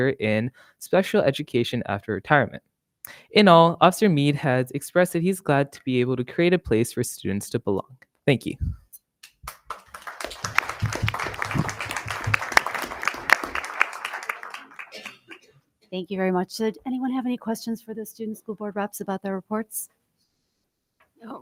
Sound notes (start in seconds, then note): 9.4 everyone applauding